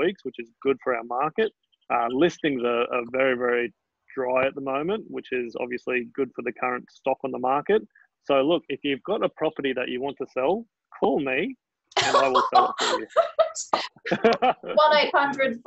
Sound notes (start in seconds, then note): 12.0 laughing; 14.0 laughing drowns out speech